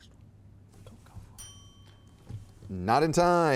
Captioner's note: bell ringing